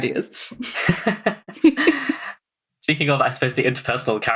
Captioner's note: laughs